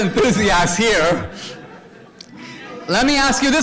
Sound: audience laughter

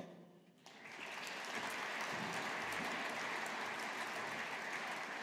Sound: audience applauding

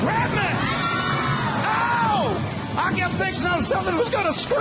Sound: back up singers screaming

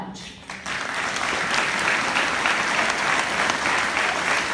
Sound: applause

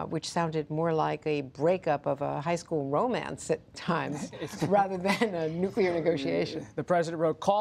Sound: laughter

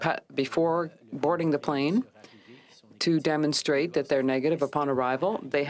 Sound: speaking french

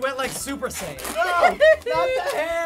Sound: giggling

